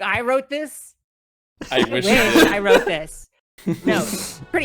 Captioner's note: everyone laughs